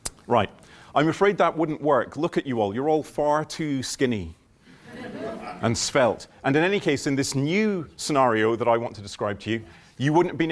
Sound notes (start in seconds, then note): 6.8 laughter